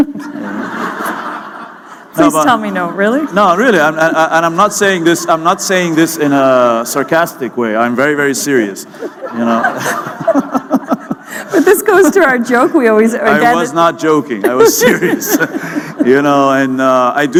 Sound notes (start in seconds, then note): 8.9 laughter